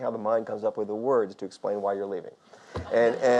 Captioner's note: audience laughs